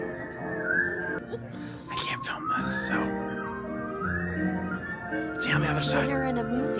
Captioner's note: whispering